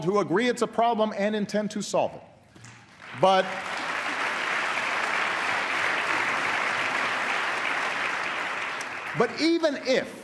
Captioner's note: applause